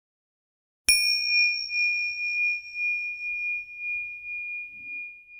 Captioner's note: high pitched bell ringing